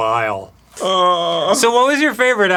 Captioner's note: arin cries a little